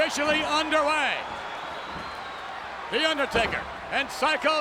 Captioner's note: applause